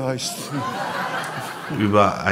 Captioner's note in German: Lachen